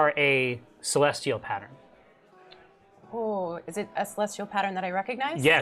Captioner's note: none